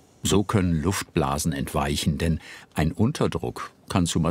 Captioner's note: none